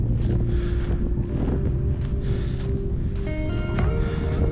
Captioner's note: wind rushing